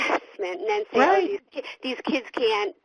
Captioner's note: chuckles